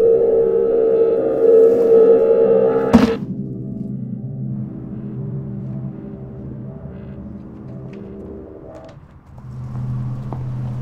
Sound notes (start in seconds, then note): 2.8 thudding